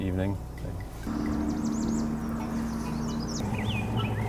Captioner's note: birds chirping